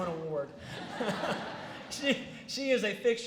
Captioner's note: laughter